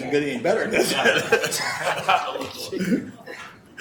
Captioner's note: laughing